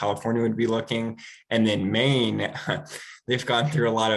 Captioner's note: chuckles